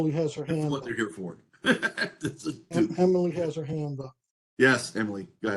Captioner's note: laugh